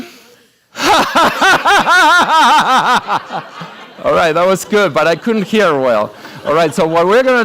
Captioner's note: laughs